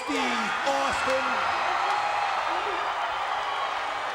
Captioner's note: crowd cheering